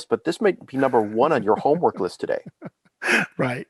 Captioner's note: laughing